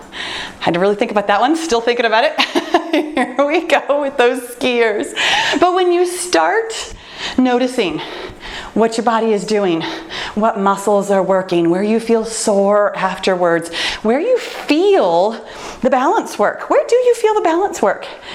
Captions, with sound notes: Had to really think about that one. Still thinking about it, [laughs] wake up with those gears. When you start noticing what your body is doing, what muscles are working, where you feel sore afterwards, where you feel the balance work, where do you feel the balance work?